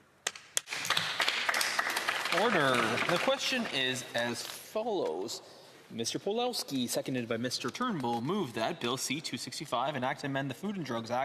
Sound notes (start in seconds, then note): 3.9 some Applause